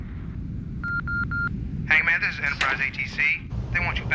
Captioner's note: radio beeping